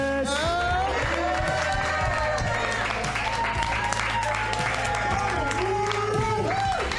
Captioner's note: applause